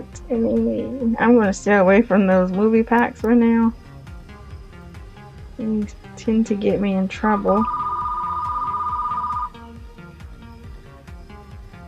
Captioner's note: phone rings